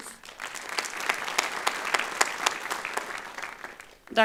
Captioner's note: applause